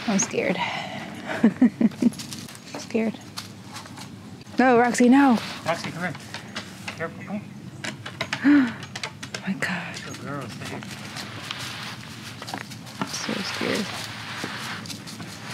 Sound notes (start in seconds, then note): 1.2 nervous laughing; 8.4 gasp